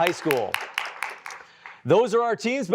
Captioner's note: applause